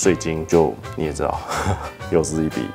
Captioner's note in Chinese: 苦笑